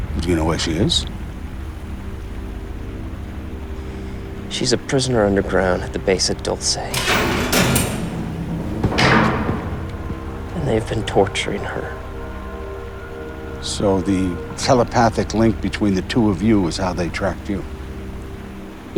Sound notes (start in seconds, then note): 2.8 ominous music; 6.8 metal banging